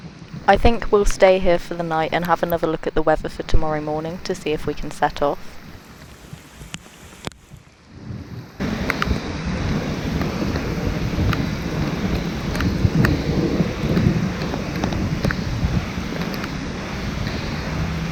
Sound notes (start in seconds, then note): 5.4 thunderstorm sounds